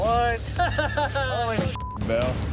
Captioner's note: laughing